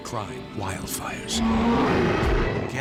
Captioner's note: sfx: bear roar